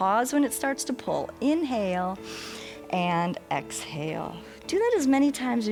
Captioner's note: inhales